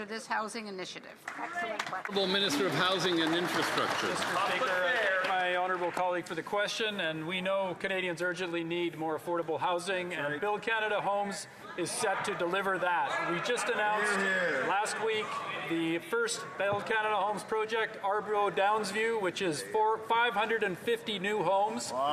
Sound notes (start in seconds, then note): 5.4 some Applause